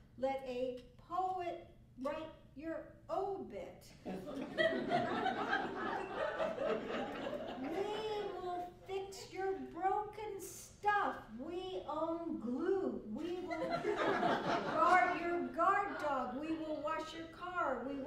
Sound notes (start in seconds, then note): 4.0 laughter; 13.1 laughter